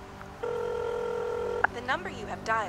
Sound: dialing

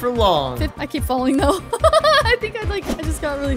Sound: laughing

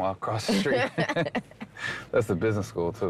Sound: both laugh

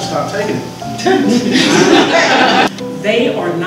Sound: laughter

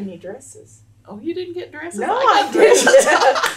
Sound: laughter

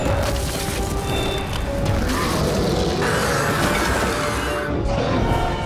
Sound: roaring

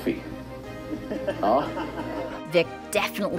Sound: on-looker laughing

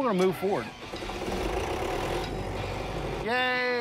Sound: generator starting

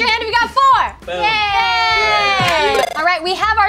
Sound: cheers

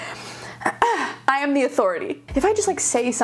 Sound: sighs

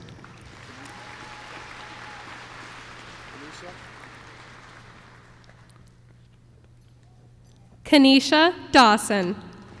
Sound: applause

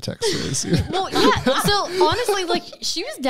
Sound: laughing together

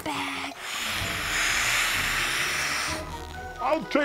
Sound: blowing, inflating

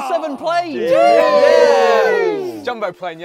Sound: cheering

